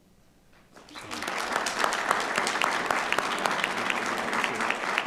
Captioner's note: audience applauding